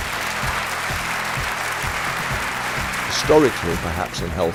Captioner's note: audience applauds